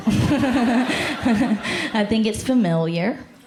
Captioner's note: laughter